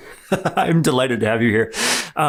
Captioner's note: chuckles